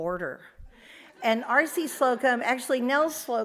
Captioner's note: audience laughs